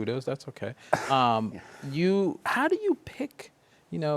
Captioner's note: chuckles